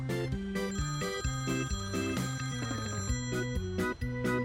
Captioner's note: phone ringing